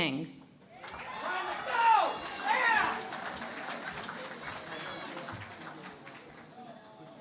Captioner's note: cheering and Applause